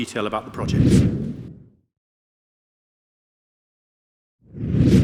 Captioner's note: air swooshing; air swooshing